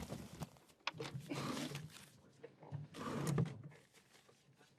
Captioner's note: drawer opens